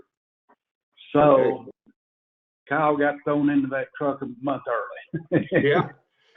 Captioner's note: laughs